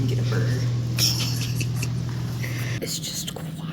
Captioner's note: laughs